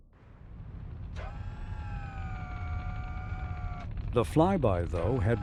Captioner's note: satellite whirring